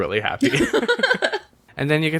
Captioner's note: laughs